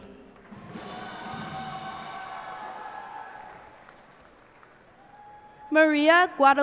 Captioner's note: cheers and applause